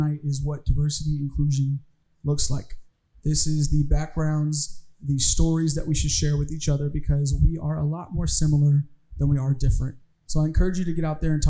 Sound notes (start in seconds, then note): none